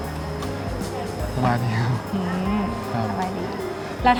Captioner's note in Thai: หัวเราะ